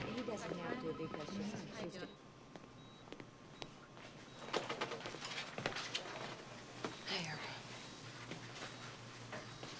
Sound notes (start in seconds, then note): 0.0 people chattering; 6.9 machine beeps